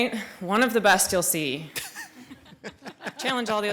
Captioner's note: attendees laugh